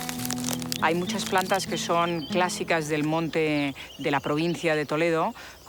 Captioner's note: speaking foreign language